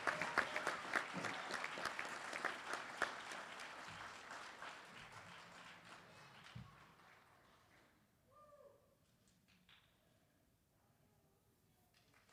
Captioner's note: applause